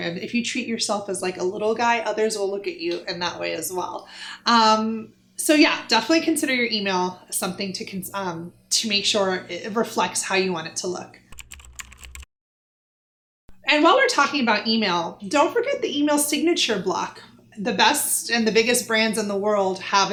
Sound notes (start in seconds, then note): 11.3 typing